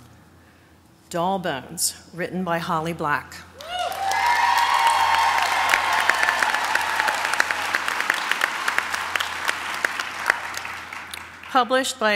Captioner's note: applause